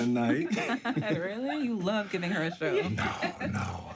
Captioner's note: woman laughs